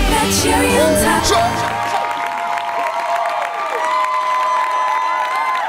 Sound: crowd cheering

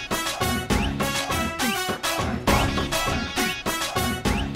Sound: none

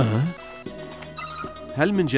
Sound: phone ringing

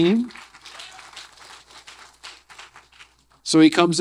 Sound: audience applause

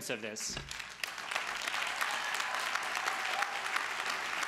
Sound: crowd claps

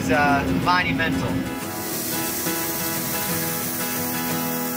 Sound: broom whirling

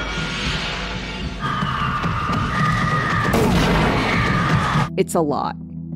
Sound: ten years of glass breaking over sad music; buckwild screaming

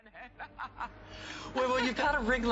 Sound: laughter

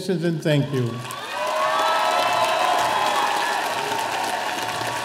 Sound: audience applauding

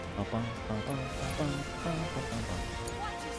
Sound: humming

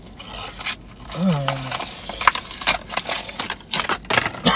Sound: carton crumpling

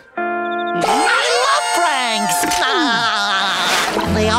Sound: laughing

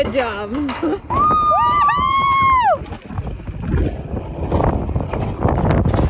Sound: both screaming excitedly

